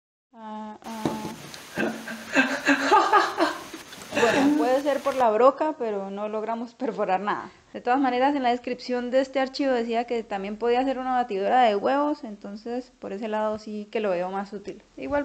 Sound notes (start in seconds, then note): 1.6 laughting about my perforation